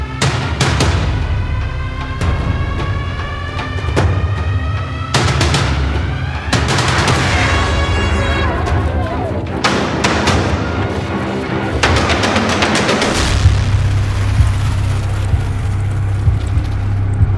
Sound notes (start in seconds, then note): 0.1 tense atmosphere music; 6.6 air horn blaring; 9.3 action atmosphere music